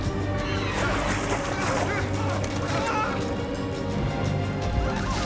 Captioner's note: shouting